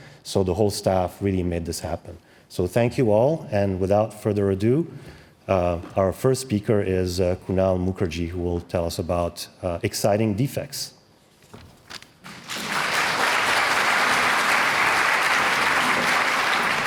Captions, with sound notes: so the whole staff really made this happen. So thank you all. And without further ado, our first speaker is Kunal Mukherjee, who will tell us about exciting defects. [APPLAUSE]